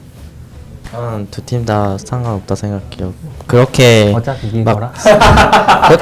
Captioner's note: laughs